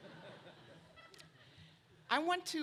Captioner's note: laughter